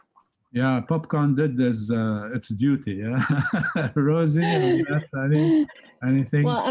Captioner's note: laughter